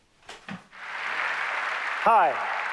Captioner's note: audience applaud